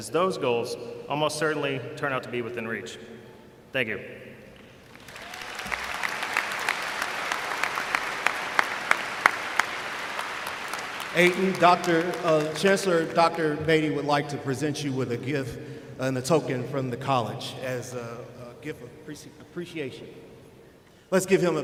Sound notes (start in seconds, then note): 4.6 applause